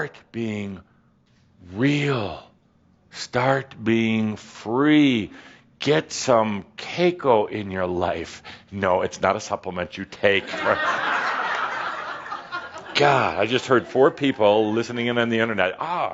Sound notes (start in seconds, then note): 10.4 laughter